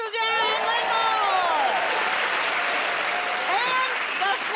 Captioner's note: cheers and applause